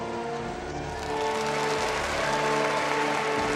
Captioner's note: applause